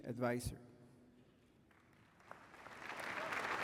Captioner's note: applause